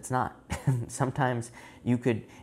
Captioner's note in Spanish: Risas